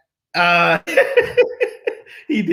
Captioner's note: laughter